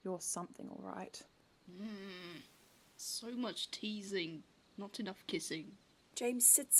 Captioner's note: James makes an impatient noise